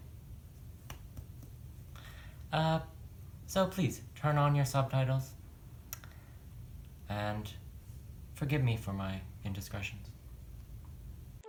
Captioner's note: slaps forehead